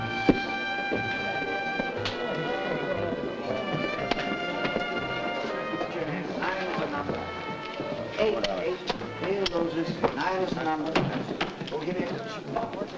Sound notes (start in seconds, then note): 0.2 bright music playing; 6.2 men chattering